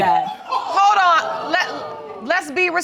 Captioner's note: audience exclaiming